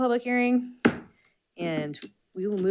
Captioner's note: gavel thuds